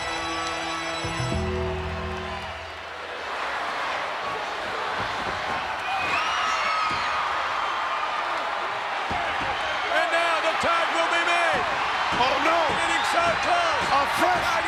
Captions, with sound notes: (audience cheering) And mow the tag will be made. Oh no. Getting so close.